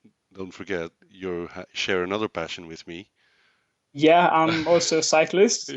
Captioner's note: laughs